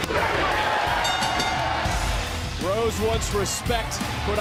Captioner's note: bell rings